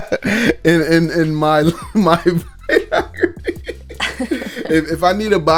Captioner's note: laughs; both laughing